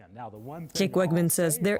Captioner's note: voice-over